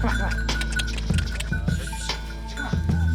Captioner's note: tongue clicking